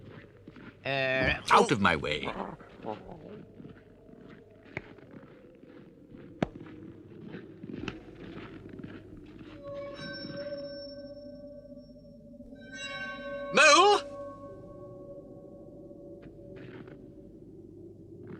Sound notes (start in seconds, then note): 2.2 weasel growls